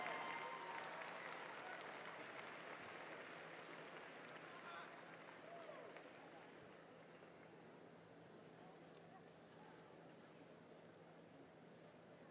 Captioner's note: applause